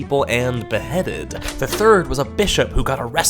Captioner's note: door clicks